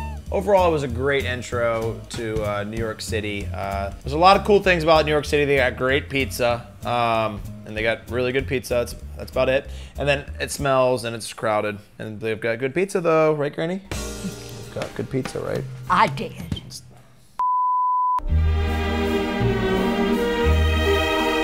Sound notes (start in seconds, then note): 17.4 screen beeping; 18.3 ballet music